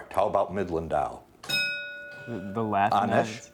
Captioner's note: bell dinging